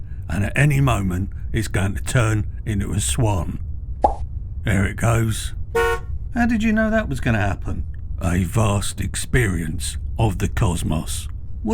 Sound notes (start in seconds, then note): 5.7 hooter honks